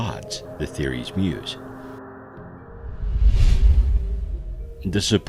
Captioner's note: air whooshing